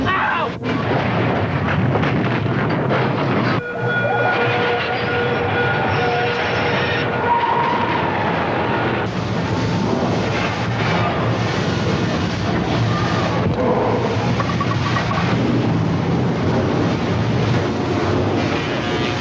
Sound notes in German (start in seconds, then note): 0.6 Feuer explodiert; 1.3 Sirene heult; 6.5 Zug kreischt; 9.7 Fahrt rumpelt